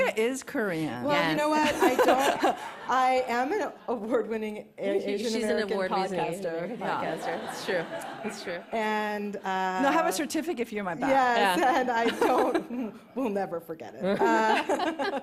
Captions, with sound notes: -Rebecca is Korean. -Yes. -Well, you know what? I don't-- I am an award-winning A-Asian American podcaster. -She's an award-winning podcaster. Yeah, it's true. It's true. -And, uh-- -I have a certificate for you in my bag. -Yeah. [laughs] -Yes, and I don't-- we'll never forget it. [laughter]